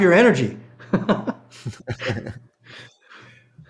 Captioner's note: laughing